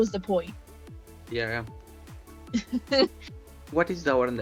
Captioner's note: laughs